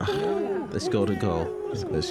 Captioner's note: cheers